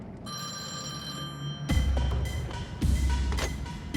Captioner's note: telephone ringing